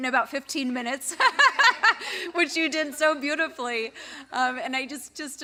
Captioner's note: laugh